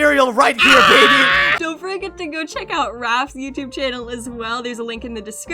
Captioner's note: awkward scream